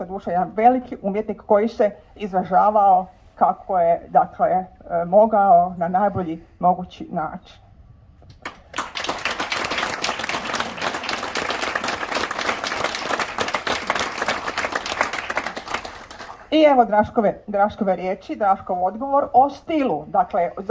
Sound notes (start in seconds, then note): 12.3 applause…